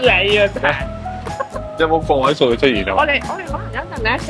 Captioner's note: laughs